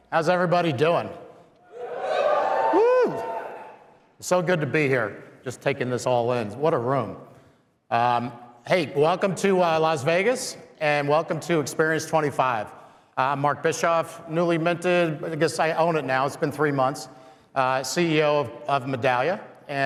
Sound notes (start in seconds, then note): 1.6 crowd clamoring